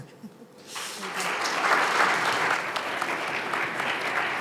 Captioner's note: audience applauds